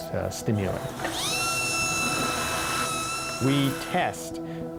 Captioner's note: machine whirring